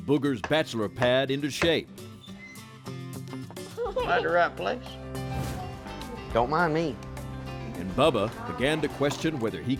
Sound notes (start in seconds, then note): 3.4 door opens, giggles